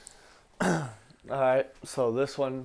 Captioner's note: clears throat